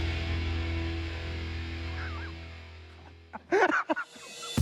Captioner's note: laughs